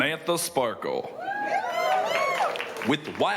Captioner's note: crowd cheering